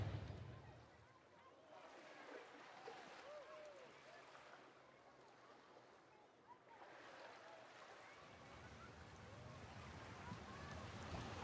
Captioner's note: water lapping on shore